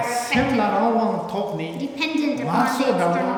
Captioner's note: speaking tibetan